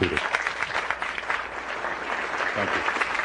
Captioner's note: applause